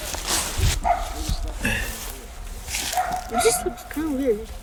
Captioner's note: dog barking